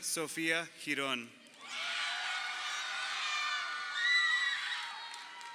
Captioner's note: crowd cheering